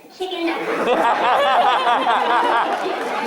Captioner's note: laughter